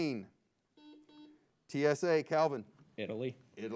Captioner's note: buzzer beeps